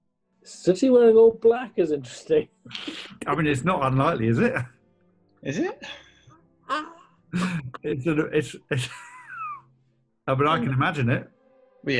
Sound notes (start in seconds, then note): 2.7 laughs; 6.5 laughter; 7.3 laughs